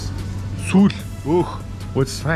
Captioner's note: speaks in foreign language